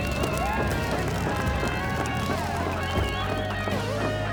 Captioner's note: crowd cheering